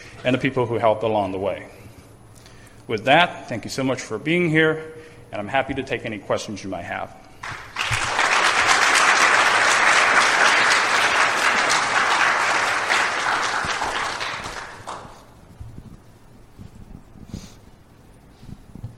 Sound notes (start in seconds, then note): 7.4 clapping